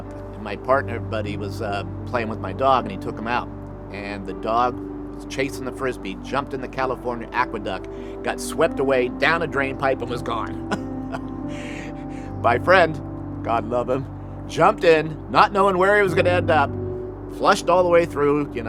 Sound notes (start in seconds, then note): 10.4 laughs